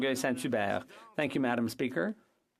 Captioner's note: speaking French